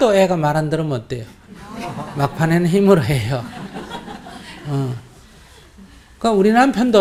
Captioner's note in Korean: 청중 웃음